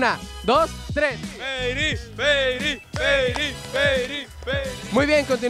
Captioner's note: all shouting